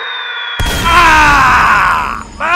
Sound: screaming

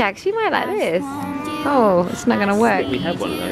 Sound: coos

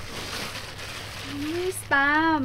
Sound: plastic rustling

